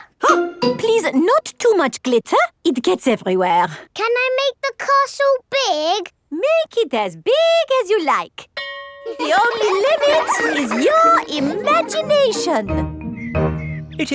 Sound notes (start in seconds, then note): 8.6 school bell rings; 9.0 children laughing